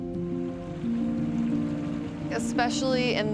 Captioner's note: water burbling